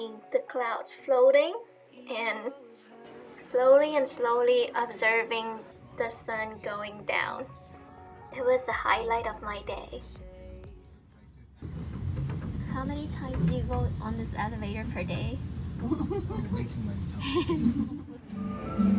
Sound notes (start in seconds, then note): 15.8 haha